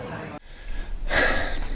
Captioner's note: sighs